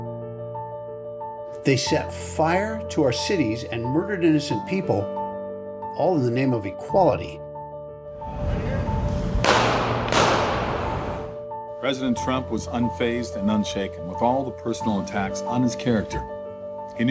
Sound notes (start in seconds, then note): 9.4 gunshots